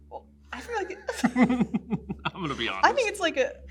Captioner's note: laughs